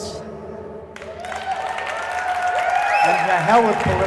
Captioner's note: cheering